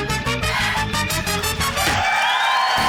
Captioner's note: exhales; clunk!